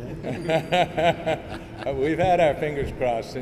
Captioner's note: laughter